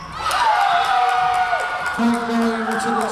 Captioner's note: crowd cheering